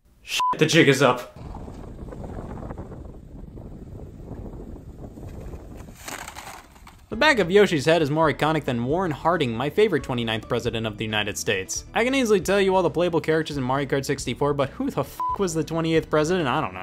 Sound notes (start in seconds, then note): 0.3 beep; 1.3 wind gusting; 15.1 beep